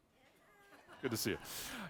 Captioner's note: audience laughing